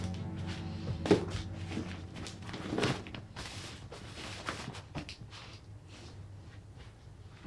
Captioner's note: fabric rustles; object thuds